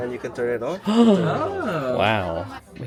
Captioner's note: exclaim